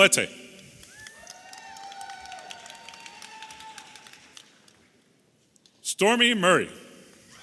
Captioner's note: audience applauding and cheering